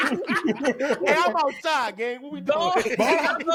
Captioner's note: laughter